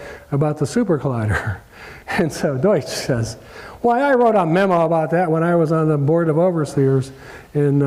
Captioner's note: laugh